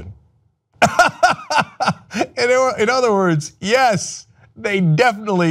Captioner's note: laughter